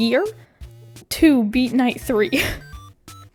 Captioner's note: laughs